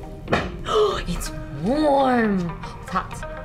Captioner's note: gasp